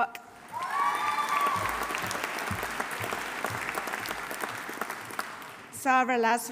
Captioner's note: audience applauding; audience cheering